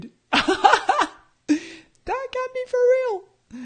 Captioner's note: laughs